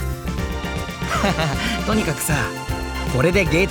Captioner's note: laugh